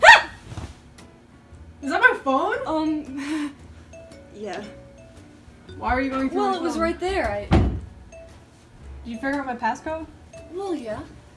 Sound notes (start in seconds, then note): 0.0 yelps; 4.1 nervous laughter